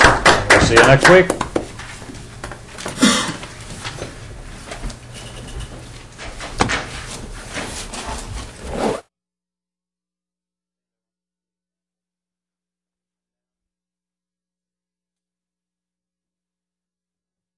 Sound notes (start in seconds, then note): 2.9 student coughing